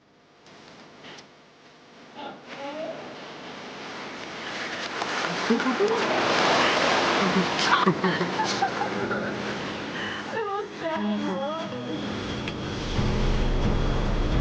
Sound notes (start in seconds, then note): 5.0 water splashing; 8.0 Alex and Emily laughing